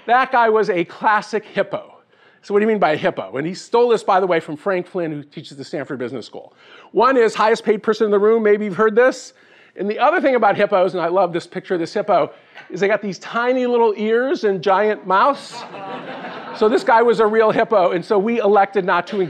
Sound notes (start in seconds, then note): 15.5 laughing